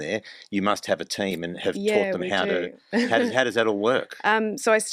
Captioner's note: laughs